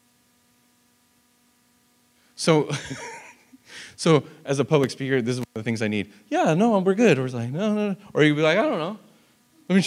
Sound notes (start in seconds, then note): 2.7 laughs